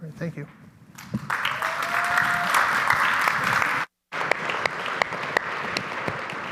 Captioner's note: audience applauding and cheering